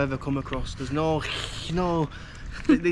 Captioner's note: hsss